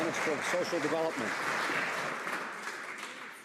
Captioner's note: some Applause